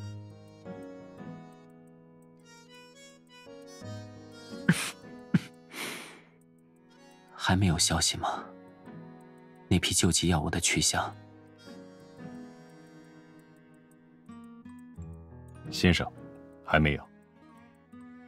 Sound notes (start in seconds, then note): 4.6 coughs